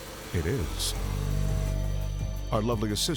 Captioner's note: saw buzzing